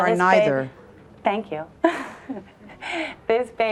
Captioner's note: laughs